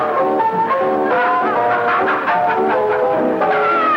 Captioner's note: merry piano music; laughing